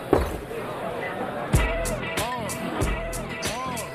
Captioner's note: glass set down